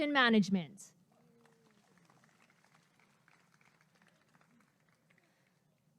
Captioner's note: applause and cheering